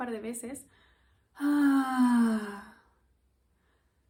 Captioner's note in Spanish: suspiro